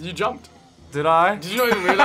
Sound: laughs

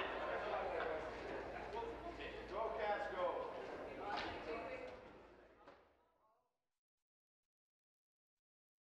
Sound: conversation din

